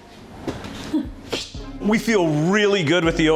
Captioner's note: snickers